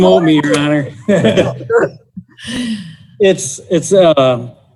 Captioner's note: participants laughing